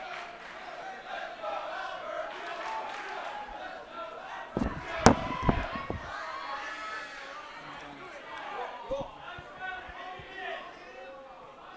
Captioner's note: fans chanting